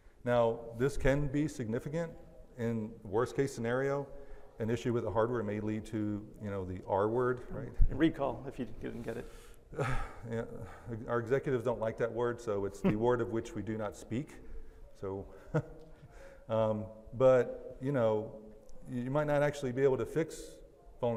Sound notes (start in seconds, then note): 15.9 laughs